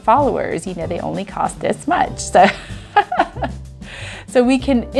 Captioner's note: laughs